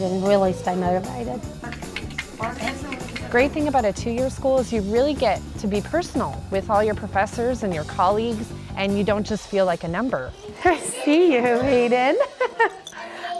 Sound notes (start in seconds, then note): 1.6 rattling sound; 10.5 laughs